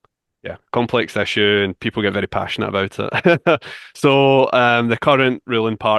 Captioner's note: chuckles